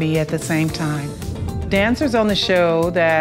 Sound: air whooshing softly

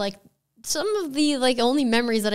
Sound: none

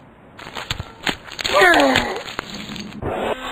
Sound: groans

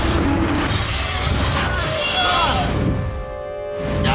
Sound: yelling

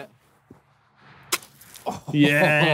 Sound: ice smashing

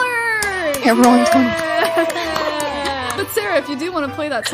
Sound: claps; applause

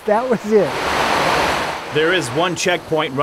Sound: water flowing

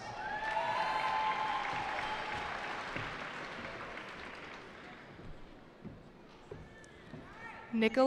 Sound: cheering

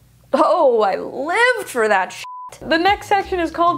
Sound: beep

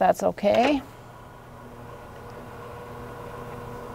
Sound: bed whirring

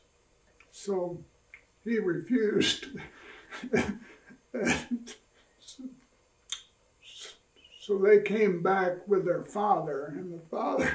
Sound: laughs

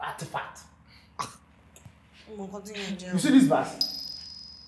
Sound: all murmurs

